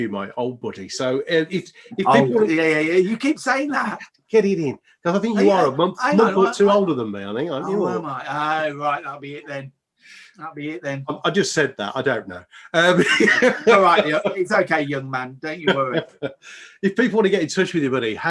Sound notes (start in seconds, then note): 12.7 laughs